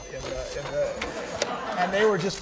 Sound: laughter

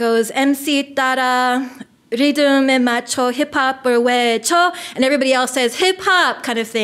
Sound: foreign language

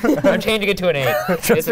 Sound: laughing

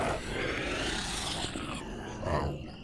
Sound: snarling

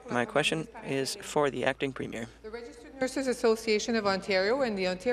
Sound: speaking in French

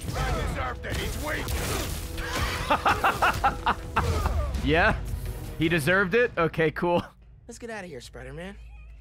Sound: laughs

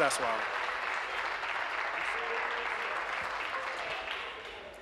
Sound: applause

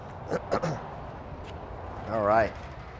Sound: clears Throat

